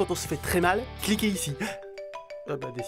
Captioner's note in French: Sonnerie de iPhone